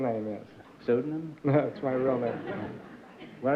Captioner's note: chuckles